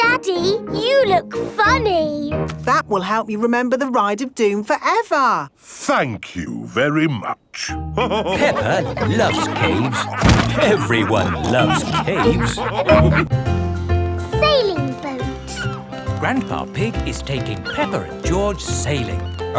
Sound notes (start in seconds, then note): 8.2 all laughing; 12.9 all laughing